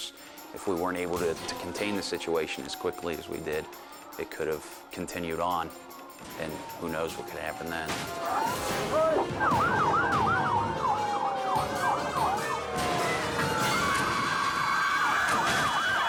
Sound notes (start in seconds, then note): 11.0 sirens wailing